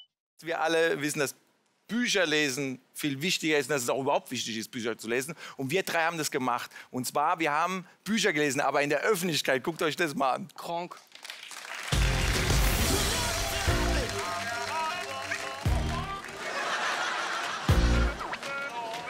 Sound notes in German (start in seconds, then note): 11.2 Applaus; 16.3 Gelächter